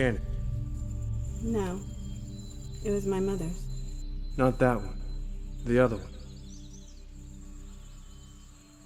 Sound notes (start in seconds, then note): 2.0 crickets chirping